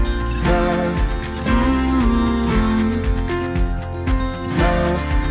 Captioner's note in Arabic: همسات المغني